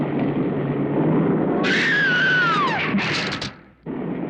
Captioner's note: scream